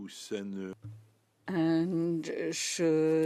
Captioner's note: speaking in French